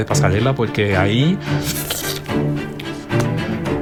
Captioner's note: anxious slurping